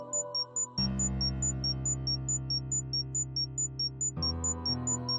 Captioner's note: beeping intensifies